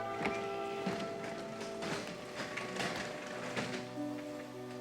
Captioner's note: garage door rattling